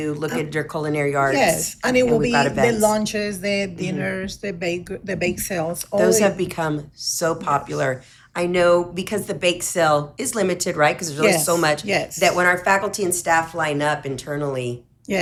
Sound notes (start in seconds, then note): none